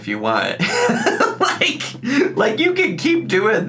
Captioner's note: laughs